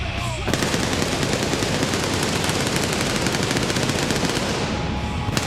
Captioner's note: pyrotechnics bursting